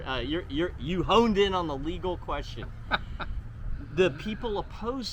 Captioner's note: laughs